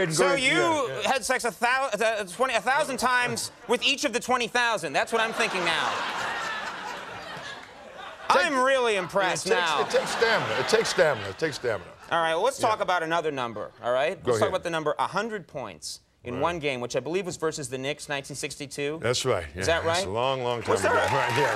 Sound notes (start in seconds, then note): 5.1 laughter